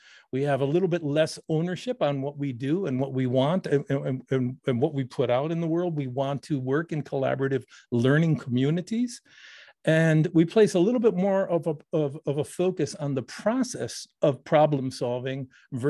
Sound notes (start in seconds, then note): none